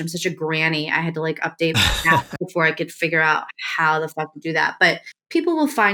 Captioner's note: laughter